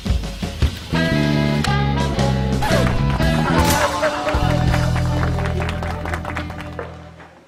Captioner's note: applause